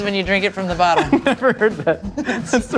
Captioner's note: laughs